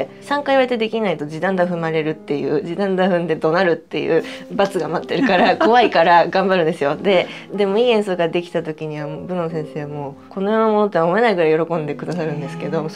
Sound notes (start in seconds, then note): 5.2 laughs